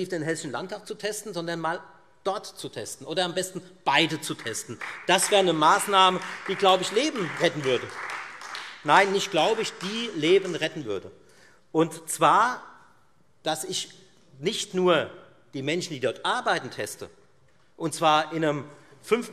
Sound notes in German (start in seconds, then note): 8.2 Beifall Freie Demokraten